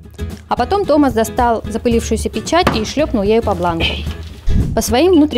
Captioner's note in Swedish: med en smäll